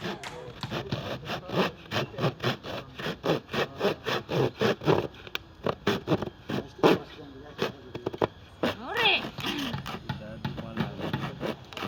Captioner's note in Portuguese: Madeira sendo serrada